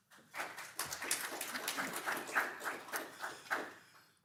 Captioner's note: crowd clapping